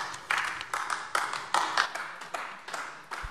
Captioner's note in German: Beifall AfD